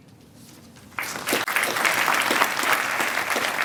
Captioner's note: applause